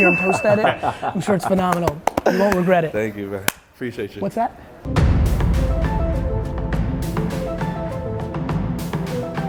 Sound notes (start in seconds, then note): 0.1 laughs; 6.5 floaty pop music